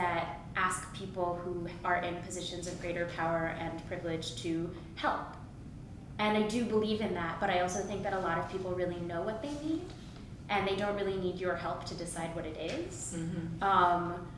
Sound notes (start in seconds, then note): none